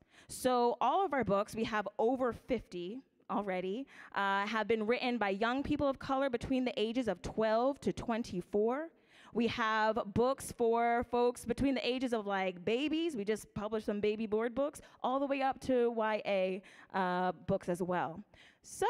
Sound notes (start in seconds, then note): none